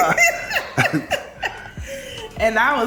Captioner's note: laughs